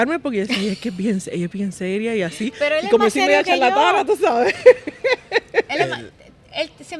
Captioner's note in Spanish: Risas